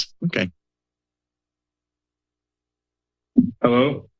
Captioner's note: silence